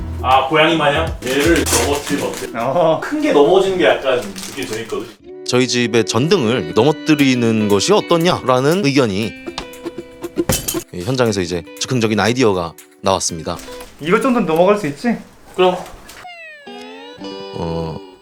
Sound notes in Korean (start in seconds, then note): 10.5 유리 깨지는 소리; 15.8 무더운 분위기의 하와이안 음악